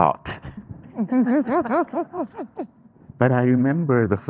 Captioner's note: group laughing